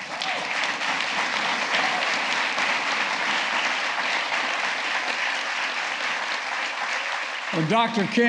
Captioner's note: applause